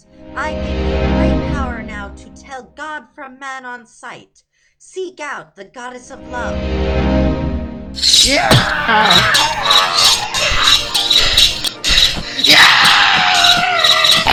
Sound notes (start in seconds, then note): 8.0 swords and spears clanging; 8.0 battle cry; 8.5 thump; 9.3 swords and spears clanging; 11.7 battle cry; 14.1 crunch, swords and spears clanging